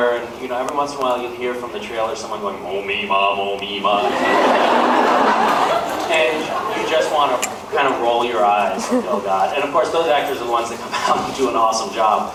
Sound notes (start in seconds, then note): 2.9 deep voice; 4.0 laughs; 11.2 laughs